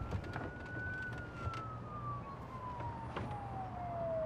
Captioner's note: police sirens